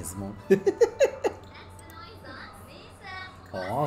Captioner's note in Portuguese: sims conversando